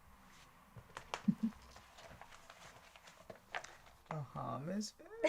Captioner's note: Linda chuckling